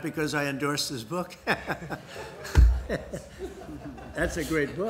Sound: laughter

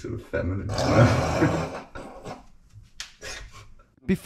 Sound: both laughing

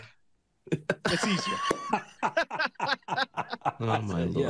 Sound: all laughing

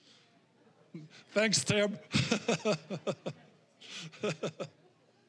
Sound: laughing

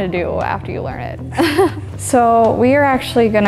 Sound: laughs

